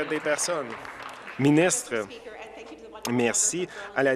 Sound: applause

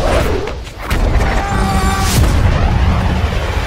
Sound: fighting yells

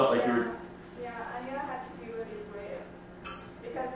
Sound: voiceover

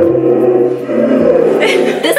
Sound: laughs

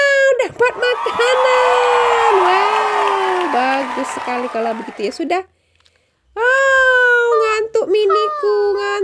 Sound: applause

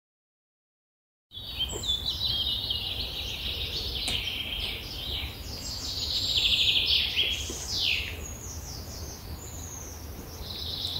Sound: sound of birds

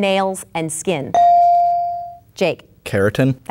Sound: bell dinging

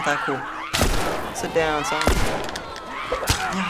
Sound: gunshot; Joel grunts

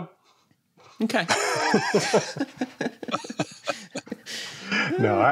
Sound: laughter

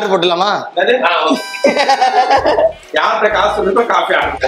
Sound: laughs

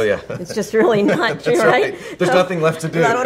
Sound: laughing

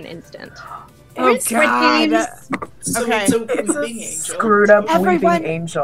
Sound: overlapping chatter

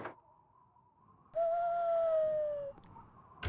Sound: wind Whistling

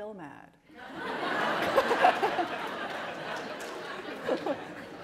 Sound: laughter

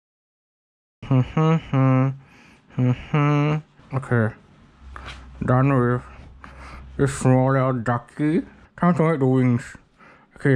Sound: mumbling

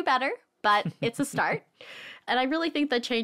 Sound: chuckling

